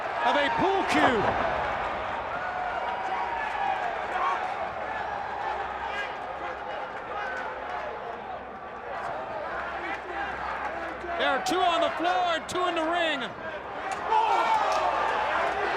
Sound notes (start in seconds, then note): 12.0 crowd chatter; 14.4 crowd cheering